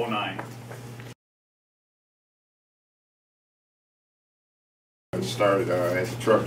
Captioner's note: silence